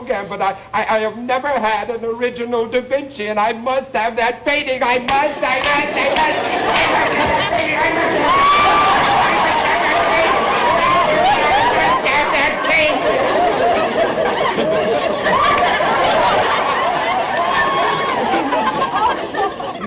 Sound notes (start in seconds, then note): 7.8 audience laughter; 10.2 Mr. Gilbert screaming; 10.2 audience laughter